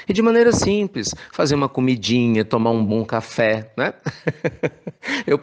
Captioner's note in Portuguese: risos